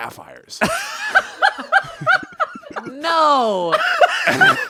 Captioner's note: everyone laughs